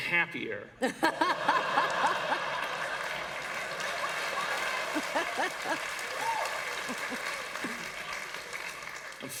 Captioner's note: laughter and Applause